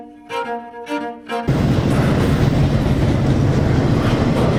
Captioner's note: train passing